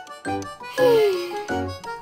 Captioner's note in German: seufz